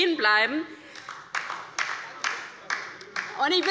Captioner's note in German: Beifall bei der LINKEN